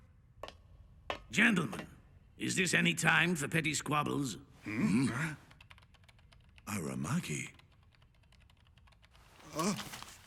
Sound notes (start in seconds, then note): 4.7 gasps